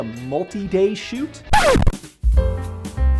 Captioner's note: audio screeches; cheerful music